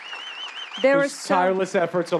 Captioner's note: applause